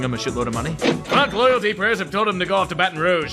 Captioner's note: ka-ching!